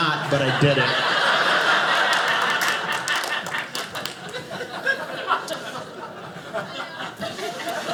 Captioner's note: audience laughing